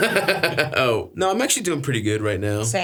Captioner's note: Stavros laughs